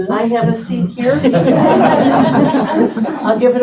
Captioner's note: laughing